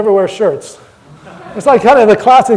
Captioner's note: audience laughter